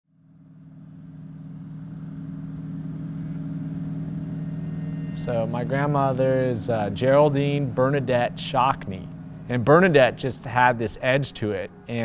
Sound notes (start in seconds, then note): 0.5 engine humming